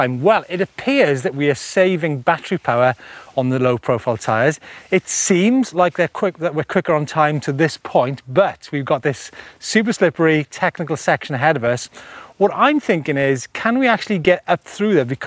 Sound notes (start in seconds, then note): none